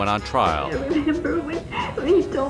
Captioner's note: tearfully